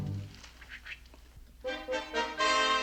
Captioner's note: makes swishing sound